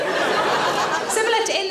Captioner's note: audience laughs